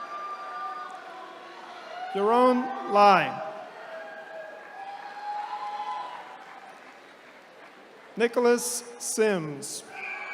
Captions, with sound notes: Yuerong Li. (attendees cheering) Nicholas Sims.